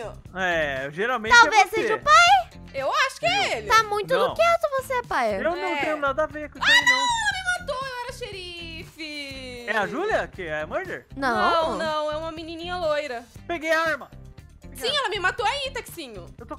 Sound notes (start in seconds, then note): 6.6 screaming